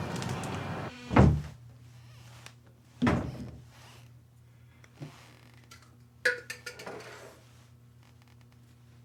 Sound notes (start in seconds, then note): 1.1 cabinet door